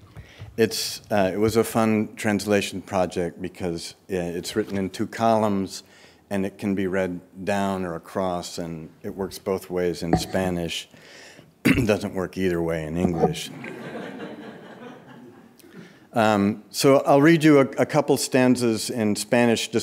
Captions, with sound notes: It was a fun translation project because it's written in two columns, and it can be read down or across, and it works both ways in Spanish. (clears throat) It doesn't work either way in English. (audience laughing) So I'll read you a couple stances in Spanish